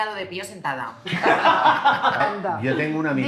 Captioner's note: laughs